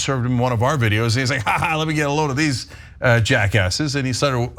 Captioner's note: laugh